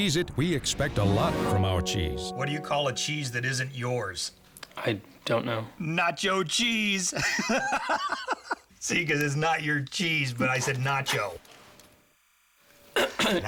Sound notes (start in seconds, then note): 10.2 laughs